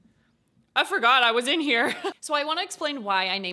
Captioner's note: chuckles